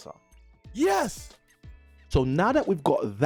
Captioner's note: YES, SOUND effect